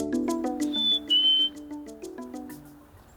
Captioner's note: whistling bird calls